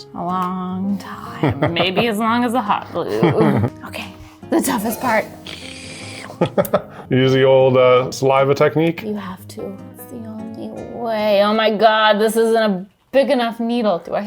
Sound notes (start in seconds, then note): 3.0 laughs; 5.3 slurps